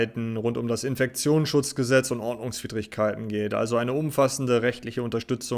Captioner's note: German